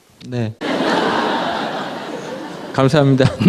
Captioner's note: audience Laughter